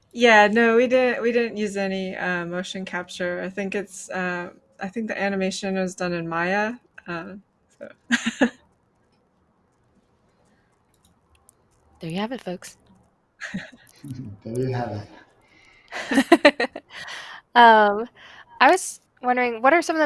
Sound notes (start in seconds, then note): 7.9 laughs; 13.4 laughs; 15.9 laughter; 15.9 laughs